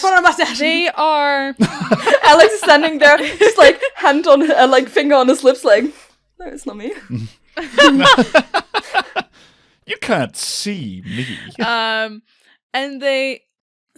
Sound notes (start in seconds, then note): 1.6 laughter; 7.6 more laughter; 11.0 laughs